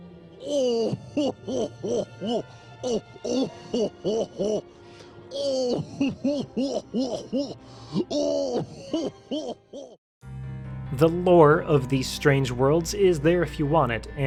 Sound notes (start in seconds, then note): 0.7 goofy, mimicking laugh